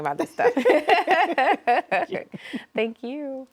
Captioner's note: both laughing warmly